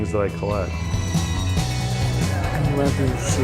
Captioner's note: horse whinnies